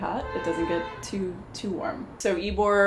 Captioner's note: car horn beeps